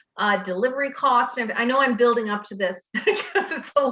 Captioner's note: laughs